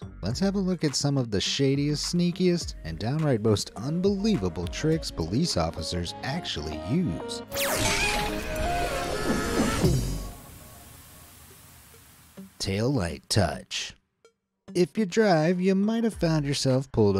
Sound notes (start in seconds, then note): 7.5 upbeat music; 7.6 mascot screaming